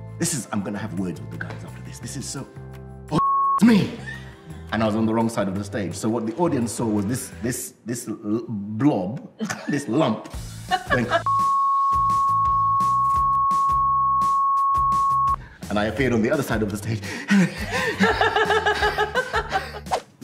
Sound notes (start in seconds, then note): 17.0 gasps for breath; 17.2 laughs